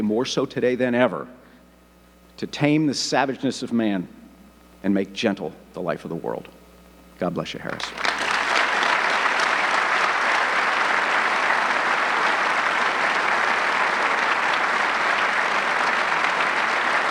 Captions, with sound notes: moreso today than ever, to tame the savageness of man and make gentle the life of the world. God bless you, Harris. (audience clapping)